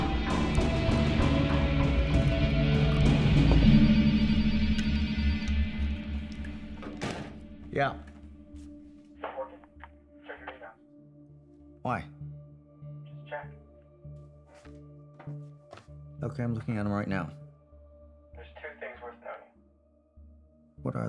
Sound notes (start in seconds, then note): 3.6 phone ringing